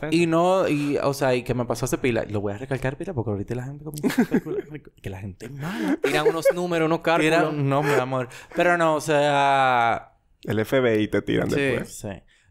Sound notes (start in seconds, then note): 5.5 laughs